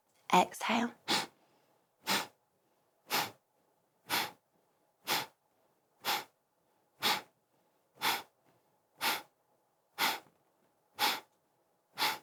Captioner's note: A series of short, sharp exhales